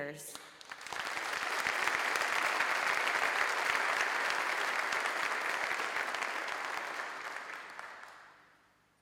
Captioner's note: applause